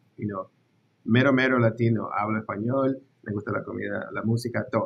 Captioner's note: speaks Spanish